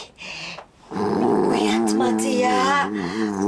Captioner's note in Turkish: Horlama sesi